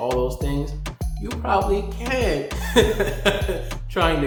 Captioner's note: laughs